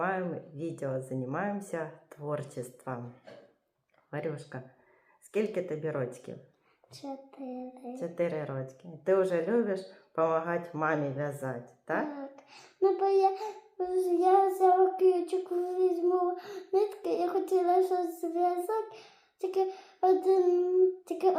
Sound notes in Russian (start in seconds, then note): 3.2 откашливается